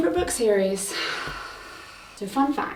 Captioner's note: sighs